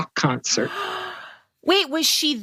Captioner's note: gasps